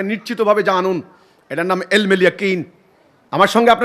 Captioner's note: in Arabic